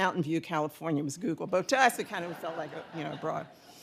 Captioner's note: audience laughing